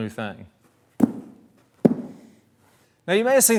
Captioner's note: soft thuds